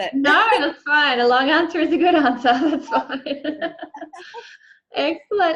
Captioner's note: chuckles